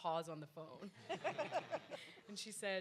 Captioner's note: audience laughs